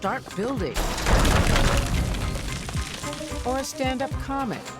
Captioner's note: building crashes down